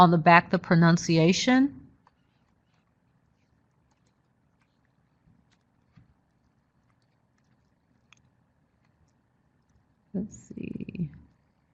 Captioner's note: brief silence-reading chat